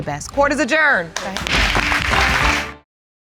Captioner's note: audience applauds